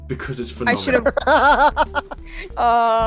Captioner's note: laughter